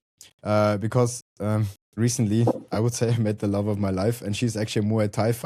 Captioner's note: chuckles